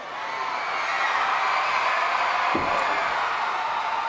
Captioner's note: crowd cheers